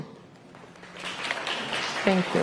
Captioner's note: clapping